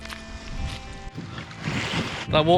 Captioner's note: sound of crunching pebbles; sound of waves